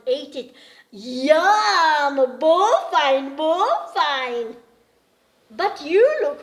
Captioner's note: speaks in gujarati